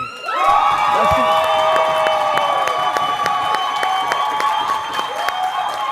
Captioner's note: audience applauding and cheering